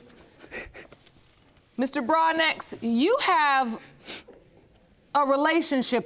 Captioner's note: sobbing